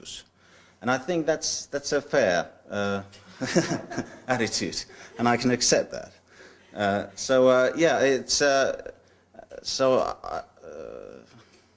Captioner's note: laughter